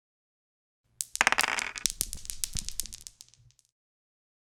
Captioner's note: dice rolling